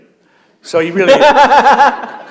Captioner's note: laughter